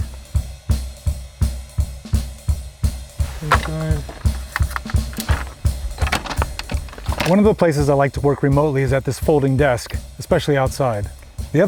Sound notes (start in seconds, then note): 0.3 upbeat music; 3.2 desk clattering; 4.2 upbeat music